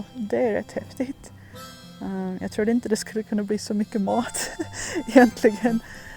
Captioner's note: laughs